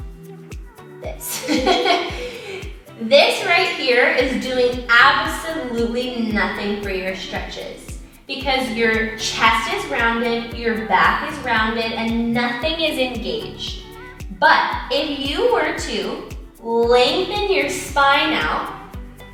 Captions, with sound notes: This. (chuckles) This right here is doing absolutely nothing for your stretches. Because if your chest is rounded, your back is rounded and nothing is engaged. But if you were to lengthen your spine out,